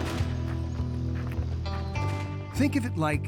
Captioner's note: gunshot echoes